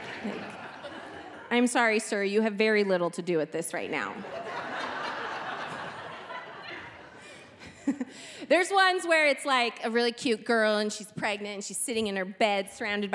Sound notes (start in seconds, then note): 4.1 audience laughing; 7.1 chuckling